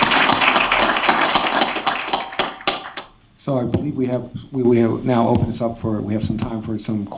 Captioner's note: applause